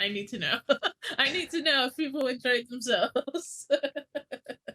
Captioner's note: laughs